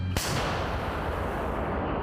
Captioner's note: cannon booms